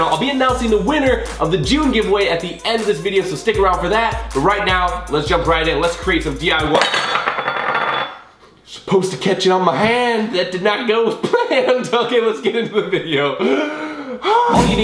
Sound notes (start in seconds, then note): 6.7 glass clinking